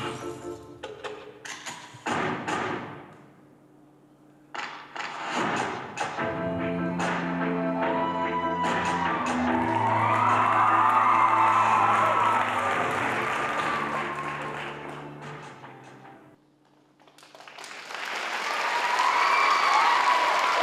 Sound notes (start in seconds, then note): 7.9 cheering; 17.1 applause